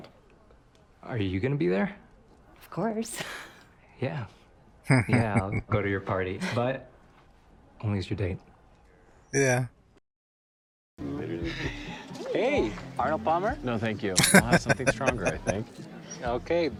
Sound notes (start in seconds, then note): 4.8 chuckling; 14.2 laughing